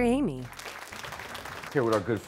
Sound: applause

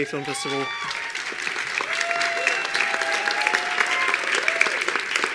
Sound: attendees applauding

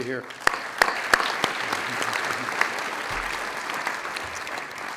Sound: audience applauds

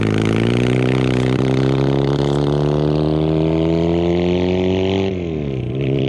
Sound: motorcycle engine accelerating

